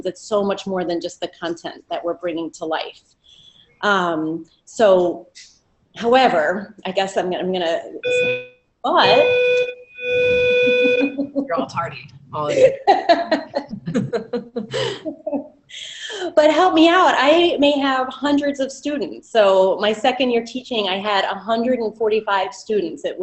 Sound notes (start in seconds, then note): 8.9 beeping; 12.5 laughter